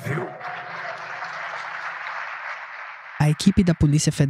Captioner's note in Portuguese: público aplaude